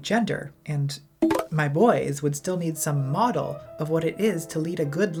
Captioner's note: Grindr notification